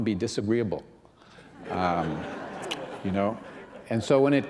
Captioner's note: laughter